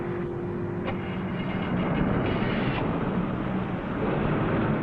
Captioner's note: engine rumbling